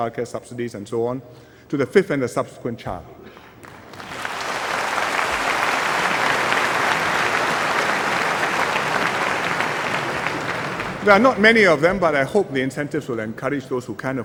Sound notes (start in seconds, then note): 3.5 applause